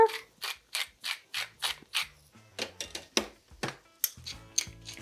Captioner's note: grinder grinding